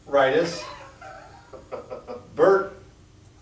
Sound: laughs

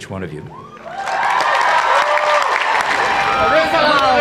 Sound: everyone cheers

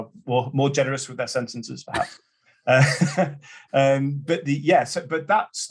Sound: laughs

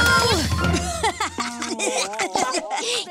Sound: laughs; giggles

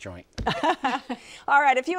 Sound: laughs

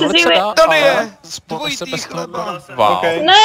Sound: happily

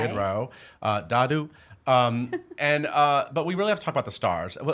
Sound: laughing

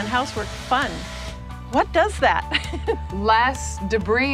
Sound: laughs

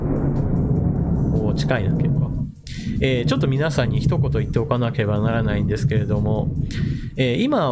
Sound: thundering

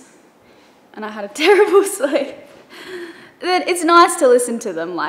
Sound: laughing

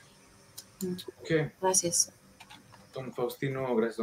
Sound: speaking in foreign language

